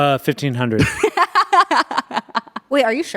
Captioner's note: everyone laughs